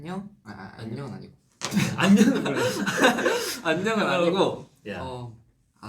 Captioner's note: laughs